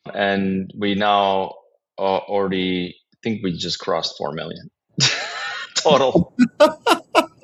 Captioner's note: laugh